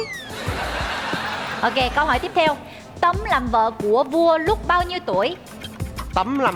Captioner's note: laughing